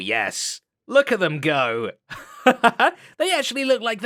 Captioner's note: laughs